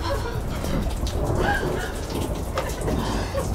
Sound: exhausted/crying

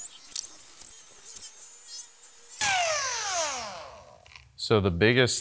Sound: machine buzzing

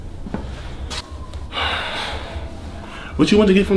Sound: heavy sigh

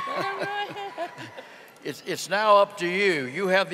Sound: audience cheering

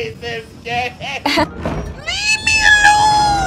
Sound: cries; woman laughs

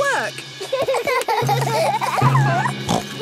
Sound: children giggling; snorts

